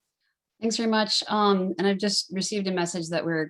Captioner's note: hablando inglés